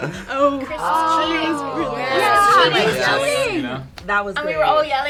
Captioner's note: all laughing; overlapping chattering